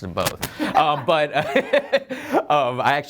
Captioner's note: laughter